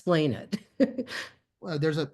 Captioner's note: laughter